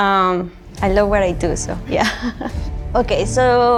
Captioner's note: laughs